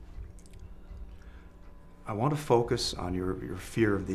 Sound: none

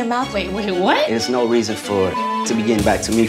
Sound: beep

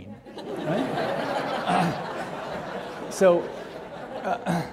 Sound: audience laughing

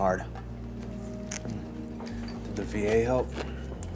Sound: food crunches

